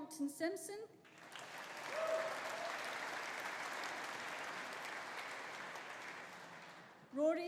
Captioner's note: audience applauding; audience cheering